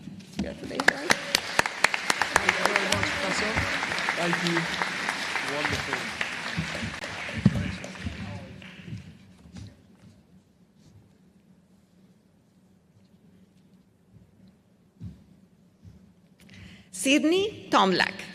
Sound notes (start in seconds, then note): 4.2 applause